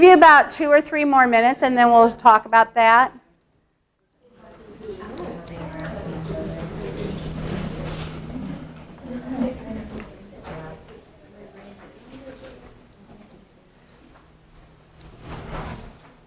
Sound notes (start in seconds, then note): 4.3 chatter